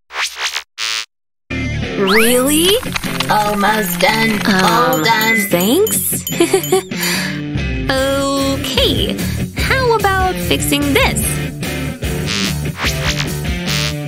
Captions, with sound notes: Almost done. All done. Um. Thanks? *confused laughter* Oookay... How about fixing this?